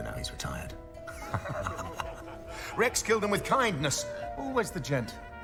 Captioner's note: laughs